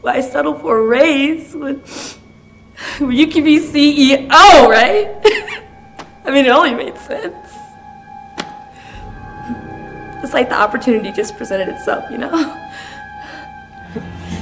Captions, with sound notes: Why settle for a raise when, you can be CEO, right? (Janet laughs) I mean it only made sense. So the opportunity just presented itself you know.